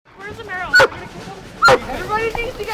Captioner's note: Baylee barking